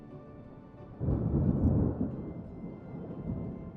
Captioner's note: thunder